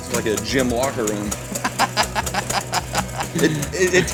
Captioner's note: laughs